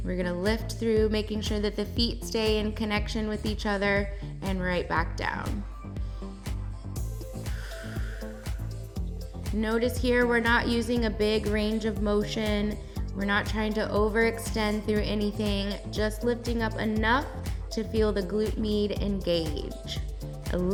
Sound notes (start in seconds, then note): 7.0 exhales; 7.2 inhales